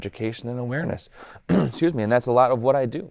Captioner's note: clears throat